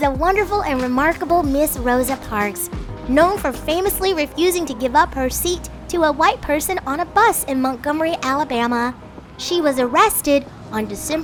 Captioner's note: traffic ambiance in background